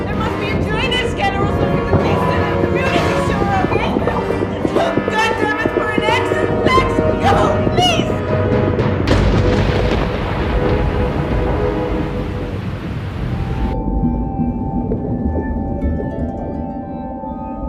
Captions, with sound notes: There must be a drainage canal that leads to the community sewer... Look Goddamnit for an exit Fleques, go please! [thunder]